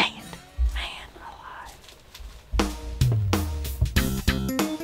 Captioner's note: whispering